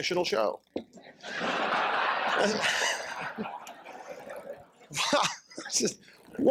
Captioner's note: laughter